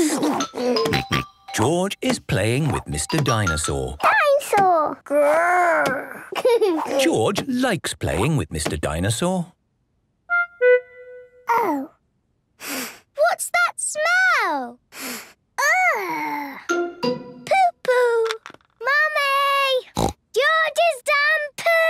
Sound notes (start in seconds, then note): 6.1 giggles; 12.6 sniffs; 19.9 snorts